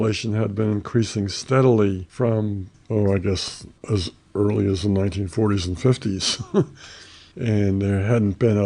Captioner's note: laughs